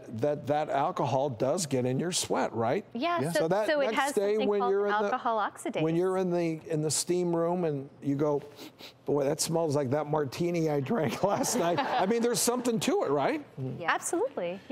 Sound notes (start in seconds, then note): 8.5 sniffing; 11.1 audience laughing